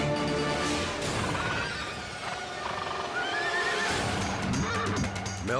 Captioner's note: horses neighing